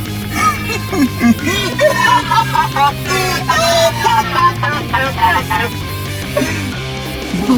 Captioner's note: stupid indian child laughs